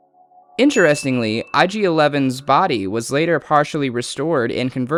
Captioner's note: ding